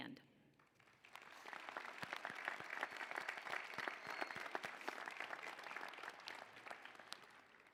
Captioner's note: applause